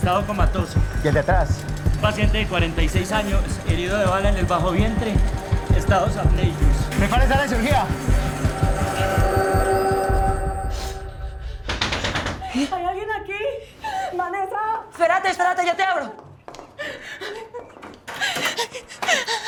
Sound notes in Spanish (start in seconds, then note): 11.7 Llaman a la puerta